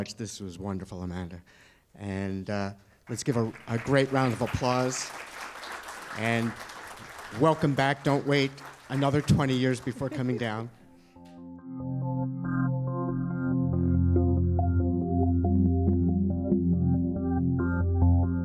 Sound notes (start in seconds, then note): 3.0 applause